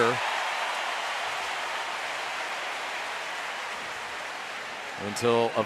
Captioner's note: cheering